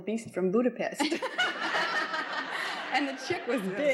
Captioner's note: laughs